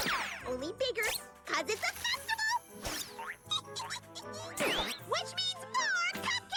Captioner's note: giggles